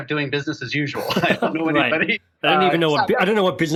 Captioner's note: both laugh